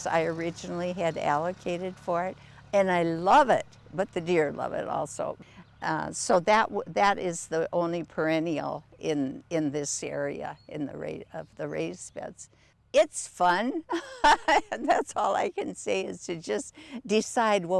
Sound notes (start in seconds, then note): 13.8 laughs